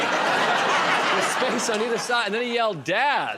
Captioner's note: laughter